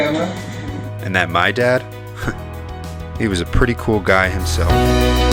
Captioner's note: voiceover